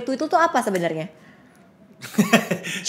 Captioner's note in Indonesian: ketawa